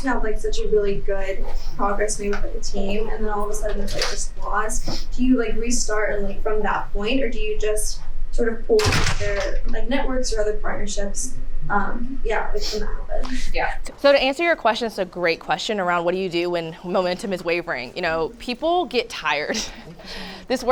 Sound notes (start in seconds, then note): 8.8 speech drowned out by door closing; 19.5 chuckles